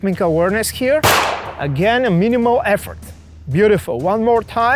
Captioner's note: gunfire pops